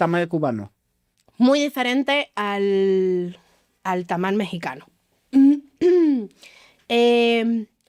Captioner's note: clears throat